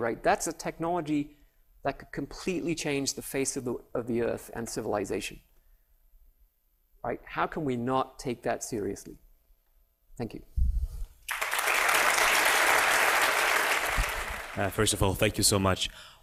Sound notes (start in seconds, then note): 11.2 applause